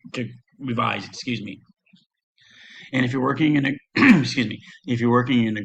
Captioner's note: clears throat